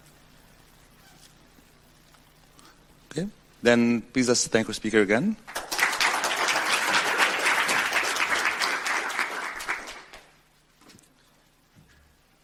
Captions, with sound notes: Then please let's thank the speaker again. (audience applauds)